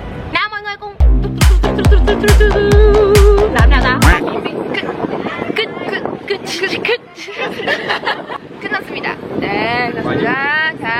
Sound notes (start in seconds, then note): 1.0 weird music and weird hand moves; 7.3 laughing over a lame poop joke